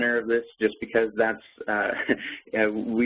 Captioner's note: laughs